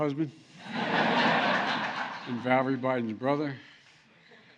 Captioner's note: laughter